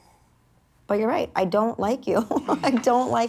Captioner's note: laughs